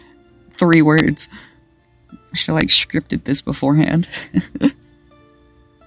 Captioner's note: chuckles